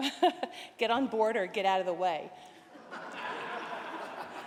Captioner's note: laughter